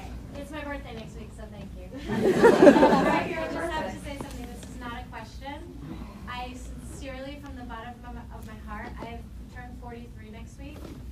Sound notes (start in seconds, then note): 2.0 laughs